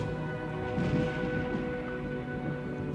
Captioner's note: thunder